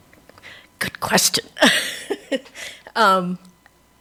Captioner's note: laughs